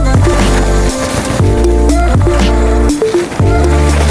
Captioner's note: dirt rustling